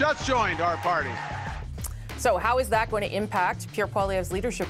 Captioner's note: cheers and Applause